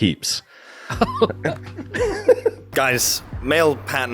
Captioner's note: both laughing